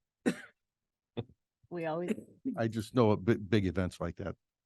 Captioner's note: laughs